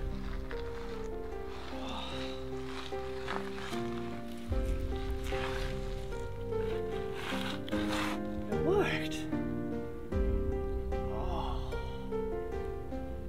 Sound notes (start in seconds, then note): 1.6 groaning; 11.0 groaning